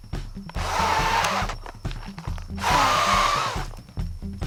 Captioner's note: blowing